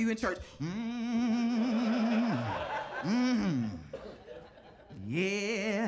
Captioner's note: audience laughing